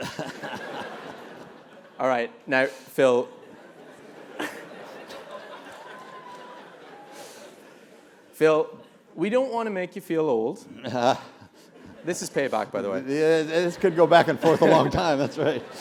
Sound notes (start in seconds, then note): 0.0 laugh; 3.6 laugh